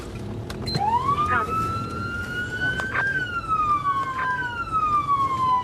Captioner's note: siren wailing